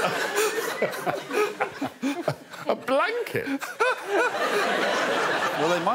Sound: laughter

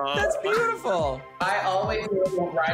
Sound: laughing

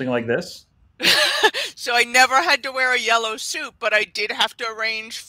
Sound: laughs

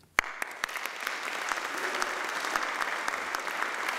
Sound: applauding

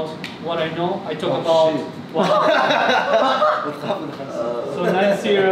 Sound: all chattering and laughing

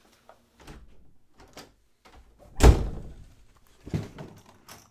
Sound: door shuts

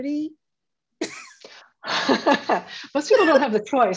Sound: laughs

